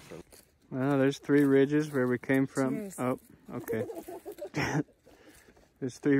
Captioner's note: laughs